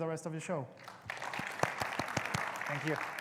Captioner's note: audience clapping